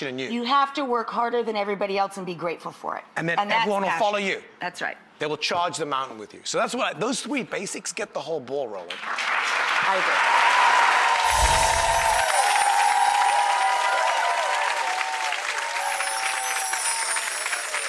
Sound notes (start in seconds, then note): 10.8 audience applauding and cheering